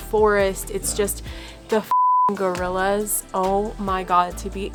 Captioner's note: beep